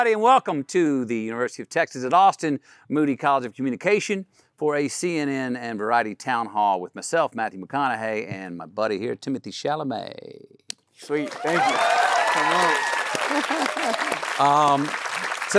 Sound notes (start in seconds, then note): 11.0 Timothée claps; 11.0 audience cheering; 13.0 Timothée laughs; 13.3 everyone applauding